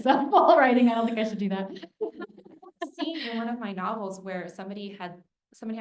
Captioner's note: laughs